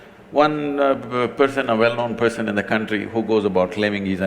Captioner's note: none